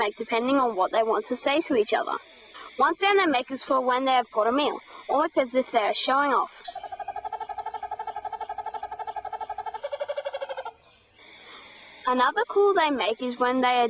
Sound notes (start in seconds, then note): 9.0 kookaburra making sound